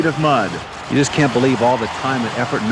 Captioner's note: voiceover